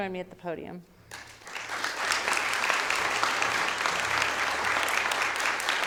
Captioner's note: audience applauding